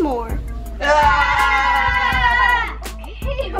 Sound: cheering

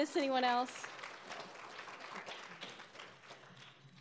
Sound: applauding

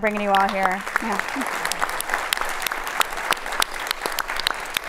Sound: audience applauds

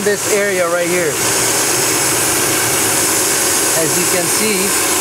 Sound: hissing

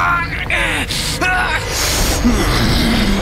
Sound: groaning

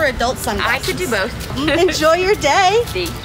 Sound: laughing

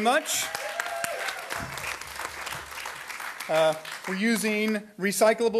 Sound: audience applauding

